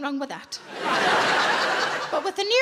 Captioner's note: audience laughs